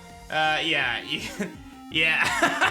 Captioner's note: laughs; giggles